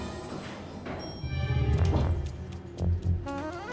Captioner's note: elevator dings; dramatic music